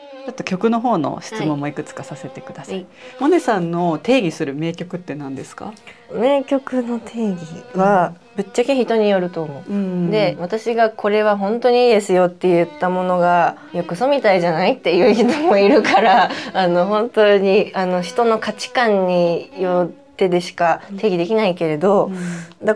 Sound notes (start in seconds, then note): 14.9 laughs